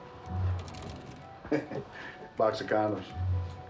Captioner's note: chuckles